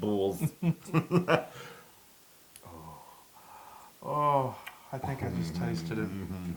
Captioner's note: laugh